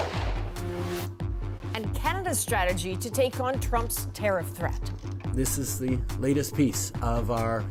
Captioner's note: gunfire